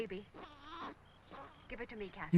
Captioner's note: baby crying